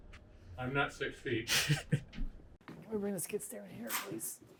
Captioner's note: snickers